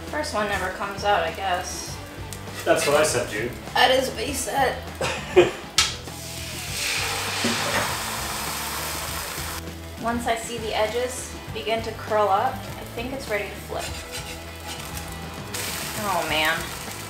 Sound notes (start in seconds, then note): 4.8 laughs